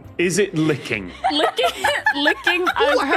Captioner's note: belly laughs